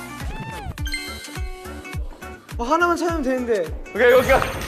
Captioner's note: Gugup